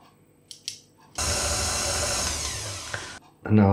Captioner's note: machine whirrin